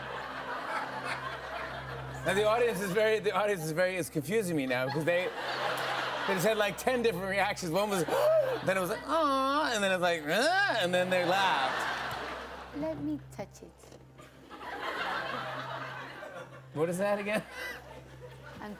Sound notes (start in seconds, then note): 8.1 gasps; 14.2 laughter; 17.2 laughs